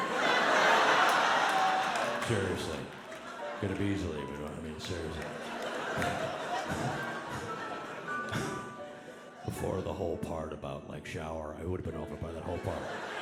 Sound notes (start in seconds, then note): 0.1 audience laughing; 5.8 audience laughing; 8.7 laughs